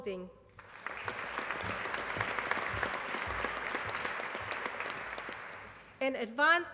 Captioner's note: applause